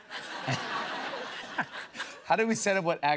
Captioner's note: laughter